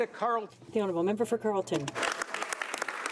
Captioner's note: speaking French